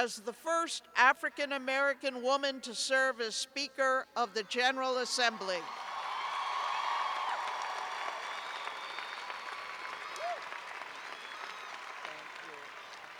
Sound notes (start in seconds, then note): 5.3 cheers and applause